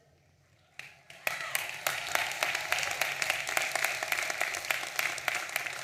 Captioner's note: audience applauding and cheering